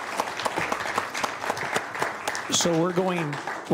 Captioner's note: applause